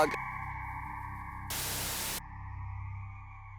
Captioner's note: tv static